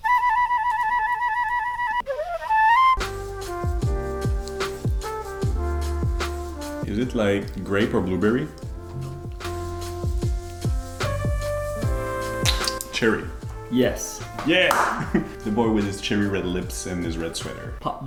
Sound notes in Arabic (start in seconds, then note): 3.3 موسيقى هادئة; 9.8 موسيقى هادئة; 12.7 أصوات تقبيل